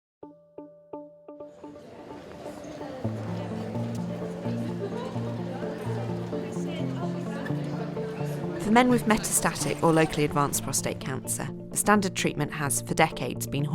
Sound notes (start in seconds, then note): 0.3 gentle instrumental music; 3.1 background chattering